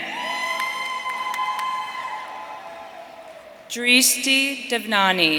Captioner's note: audience cheering